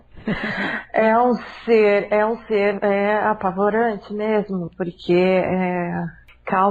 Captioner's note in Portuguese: Risos